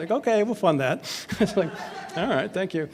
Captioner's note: laughs